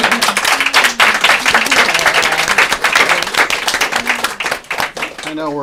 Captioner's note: applause